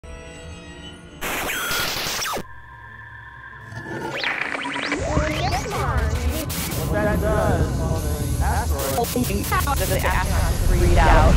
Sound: sound Effects

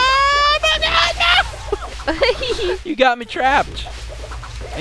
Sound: laughs

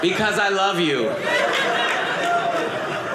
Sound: audience laughing

